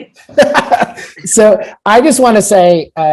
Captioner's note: laughs